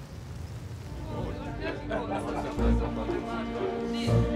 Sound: chaos of voices

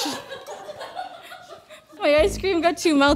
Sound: laughing

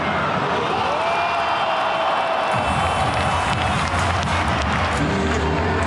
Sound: and the crowd shouting

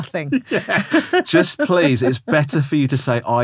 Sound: laughing

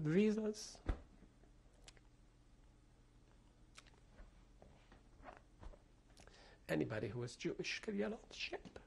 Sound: pauses for 6 seconds

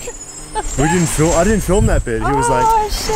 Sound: laughing

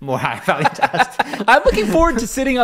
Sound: laughing

